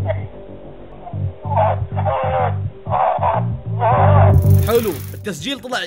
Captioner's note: screams in pain